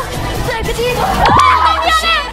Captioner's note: Collision